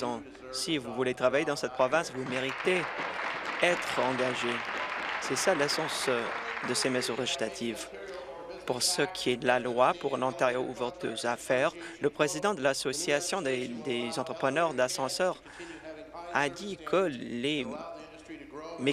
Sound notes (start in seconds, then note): 7.4 applause